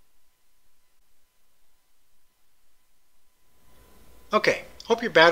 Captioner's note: pause